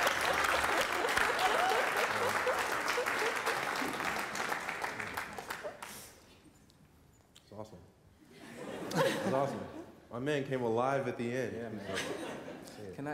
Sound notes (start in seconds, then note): 0.0 applause; 8.3 laughter